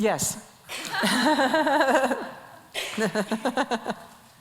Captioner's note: laughs